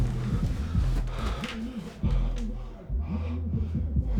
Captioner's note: Sam breathing heavily